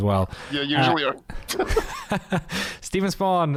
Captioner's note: laughter